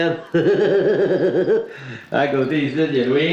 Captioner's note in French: rire